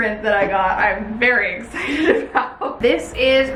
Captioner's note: laughs